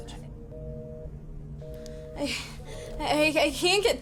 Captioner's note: ring tone beeps